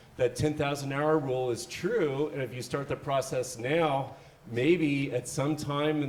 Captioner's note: none